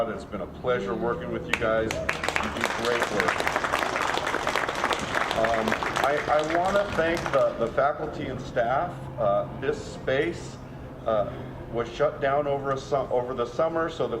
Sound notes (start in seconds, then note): 1.5 audience clapping